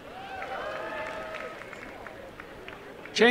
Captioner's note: applause